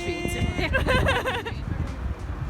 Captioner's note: collective laughter